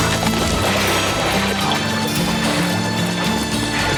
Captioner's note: water splashes